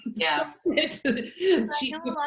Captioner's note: laughs